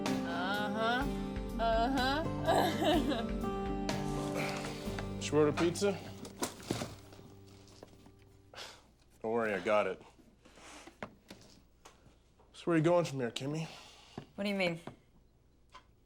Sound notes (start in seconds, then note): 2.4 laughs; 8.7 scoffs